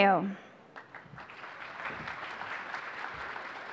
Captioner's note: applause